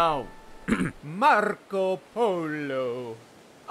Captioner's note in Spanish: acento italiano